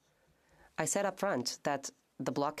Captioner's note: speaking French